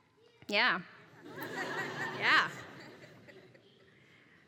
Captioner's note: laugh